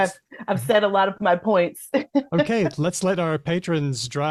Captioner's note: laughs; laughs